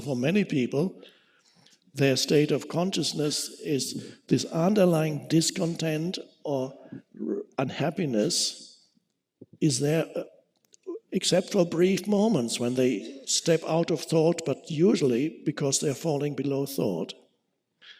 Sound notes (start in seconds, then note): none